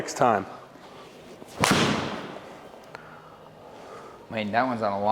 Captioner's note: golf club hits ball